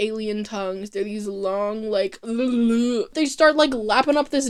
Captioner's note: indescribable mouth noise